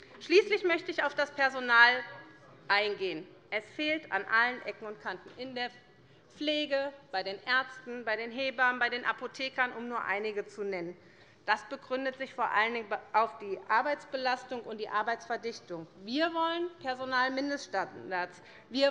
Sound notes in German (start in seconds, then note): none